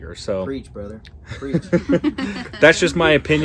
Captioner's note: laughs